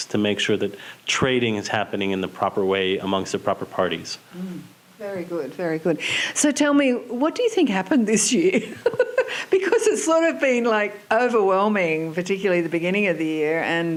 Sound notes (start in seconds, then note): 8.6 laughs